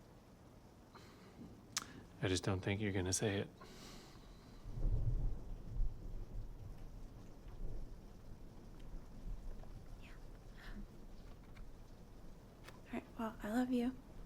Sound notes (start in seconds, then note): 1.7 clicks tongue; 4.4 thunder rumbles